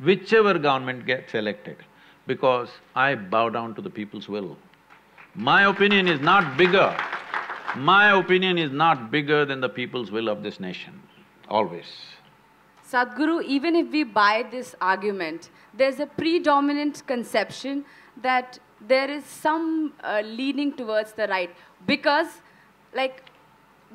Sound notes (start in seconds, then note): 4.9 applause